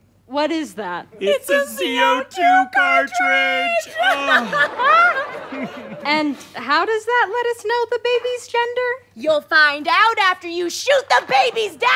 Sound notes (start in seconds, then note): 1.7 in high voice; 5.4 audience laughter